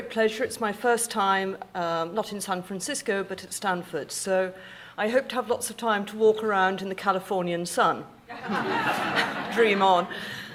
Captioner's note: audience laughing